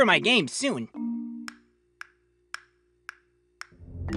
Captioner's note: clock ticking